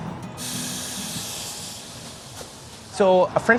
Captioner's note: pan hissing